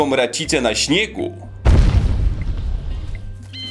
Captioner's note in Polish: potężny huk